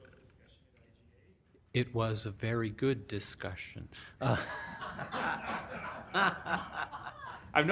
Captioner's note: laughter